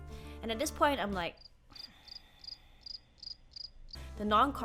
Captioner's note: crickets chirping